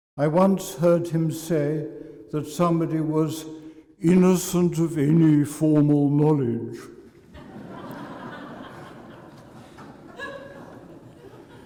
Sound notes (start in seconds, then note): 7.2 laughter